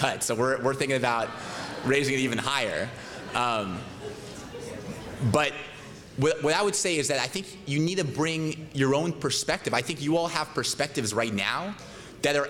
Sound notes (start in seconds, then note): 2.7 laughter